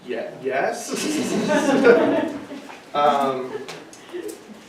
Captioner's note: laughing